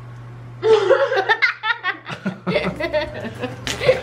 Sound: laughter

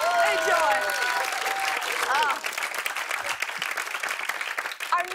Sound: cheers and applause

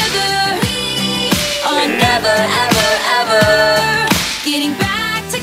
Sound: buzzer rings

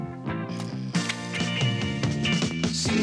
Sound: shutter clicks

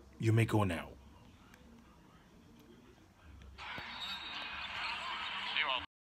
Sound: United Center sounds

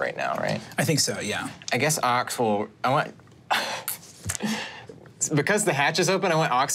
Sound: laughs

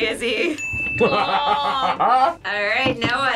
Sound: laughs

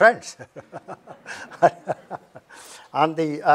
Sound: laughs

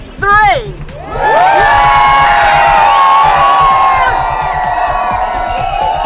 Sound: crowd cheers

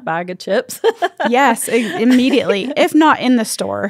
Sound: laughs

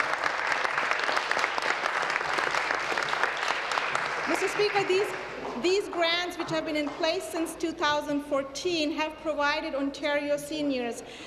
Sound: applause

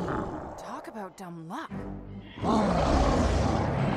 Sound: roaring

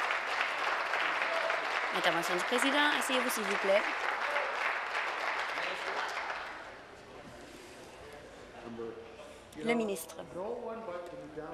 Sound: applause

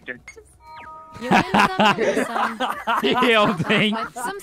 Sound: laughter

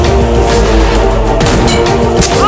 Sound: shot fired

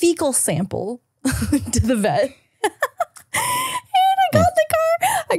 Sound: laughing

